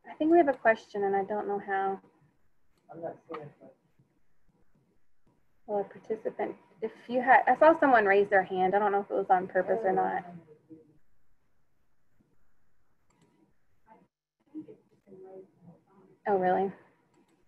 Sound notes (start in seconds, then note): 15.5 speaking faintly